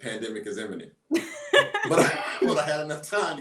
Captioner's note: laughs